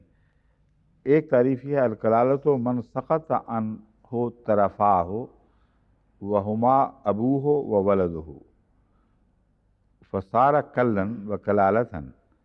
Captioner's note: Arabic